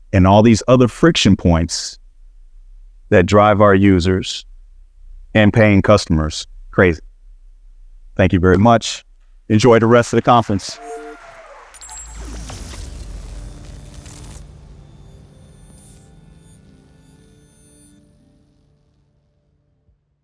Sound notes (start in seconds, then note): 9.7 audience cheering; 10.8 graphic blipping